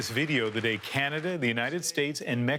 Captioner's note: applause